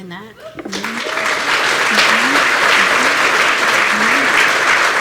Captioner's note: applause